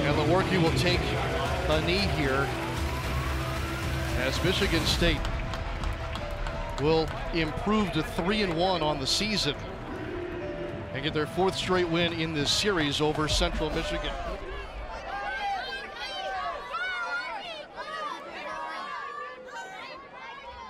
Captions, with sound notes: And Lewerke will take a knee here, as Michigan State will improve to 3-1 on the season. And get their fourth straight win in the series over central Michigan. (kids cheering)